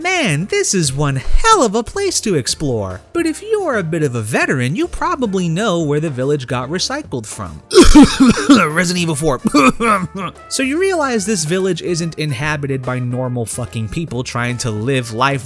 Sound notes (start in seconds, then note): 7.7 coughs